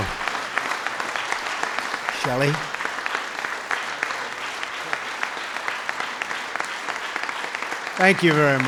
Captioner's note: applause